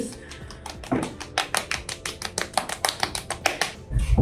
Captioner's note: palms tapping